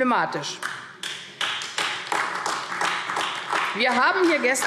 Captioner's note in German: Beifall AfD